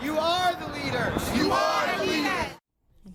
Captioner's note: crowd Responds